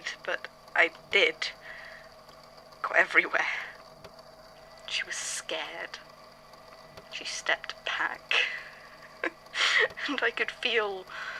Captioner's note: giggles